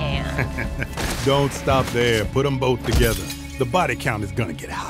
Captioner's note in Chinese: 笑聲